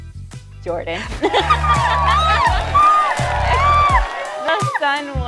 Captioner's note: audience cheering